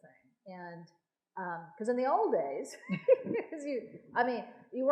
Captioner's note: laughs